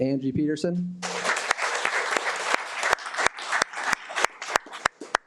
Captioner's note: audience applauding